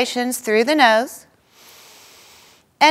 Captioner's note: inhaling